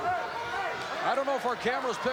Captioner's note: audience cheering